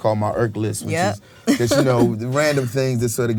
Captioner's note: laughs